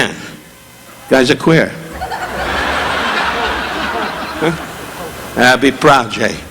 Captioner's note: audience laughing